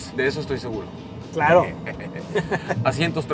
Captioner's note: laughter